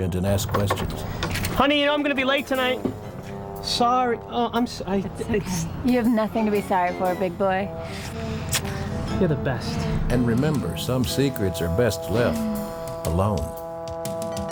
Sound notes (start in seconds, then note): 8.4 lips kissing